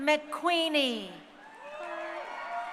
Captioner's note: crowd cheering